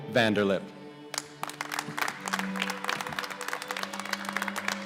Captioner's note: applause